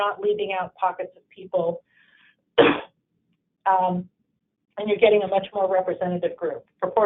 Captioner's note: cough